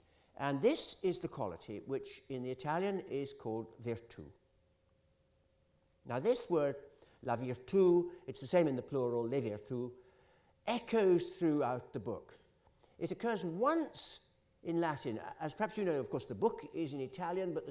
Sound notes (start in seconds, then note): 9.3 italian